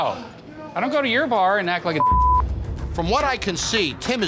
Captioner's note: beep